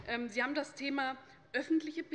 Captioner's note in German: none